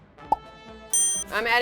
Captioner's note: ding